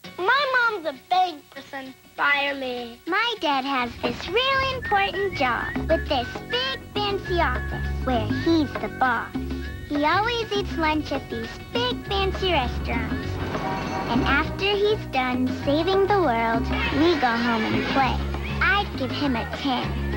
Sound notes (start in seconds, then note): 12.7 traffic, honking; 16.6 children talking, laughing